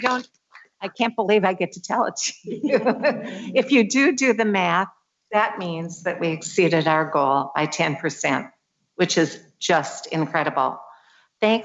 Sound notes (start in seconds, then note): 2.4 laughs